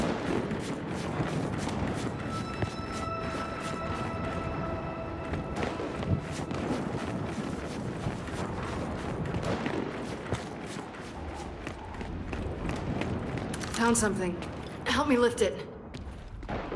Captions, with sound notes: [gunshots] Found something. Help me lift it.